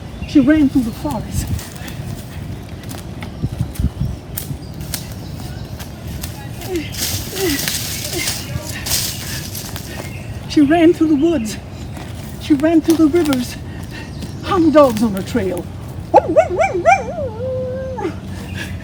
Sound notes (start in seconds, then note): 2.0 footsteps crunching; 2.0 panting; 16.1 howling